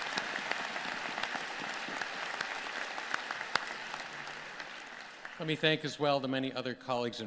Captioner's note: applause